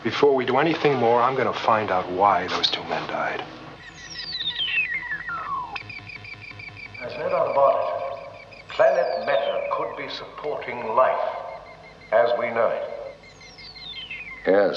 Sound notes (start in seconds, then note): 4.0 rádio choramingando